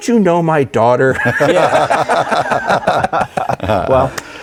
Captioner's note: group laughing